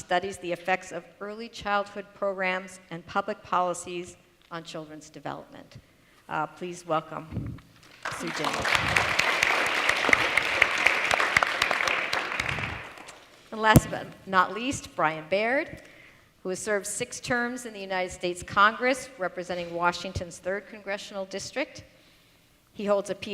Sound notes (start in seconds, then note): 7.9 applause